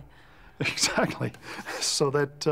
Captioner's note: chuckles